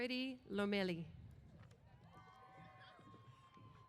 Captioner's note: cheers